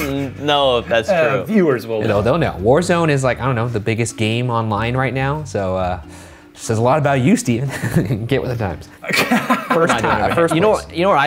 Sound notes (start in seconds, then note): 9.0 laughs; 9.0 laughter